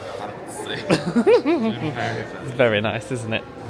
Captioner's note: giggles